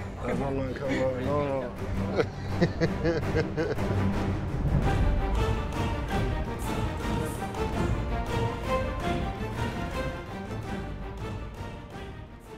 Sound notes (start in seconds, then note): 2.0 laughing; 3.1 dramatic theme music